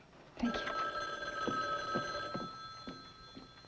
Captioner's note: phone ringing